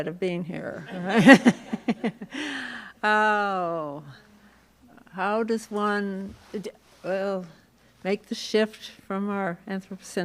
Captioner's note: laughs